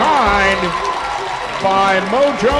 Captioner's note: crowd Reaction